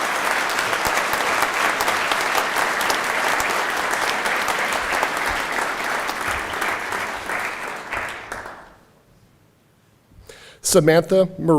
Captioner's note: applause